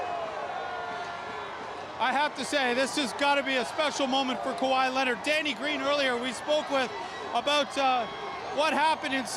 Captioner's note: cheers